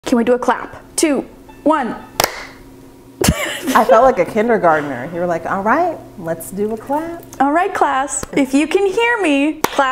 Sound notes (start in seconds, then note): 2.2 clapping; 3.2 laughing